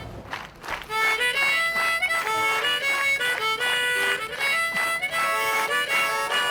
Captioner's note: audience clapping; lively harmonica music